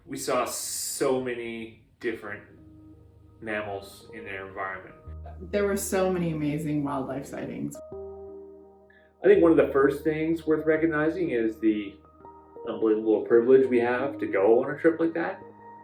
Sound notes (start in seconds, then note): 4.0 adult female voice